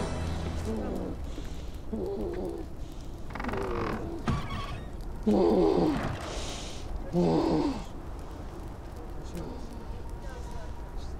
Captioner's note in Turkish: Sızlanma sesi